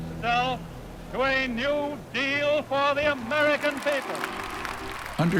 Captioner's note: cheers and applause